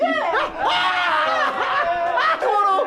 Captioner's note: scream